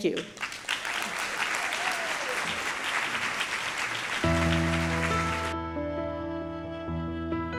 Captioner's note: applause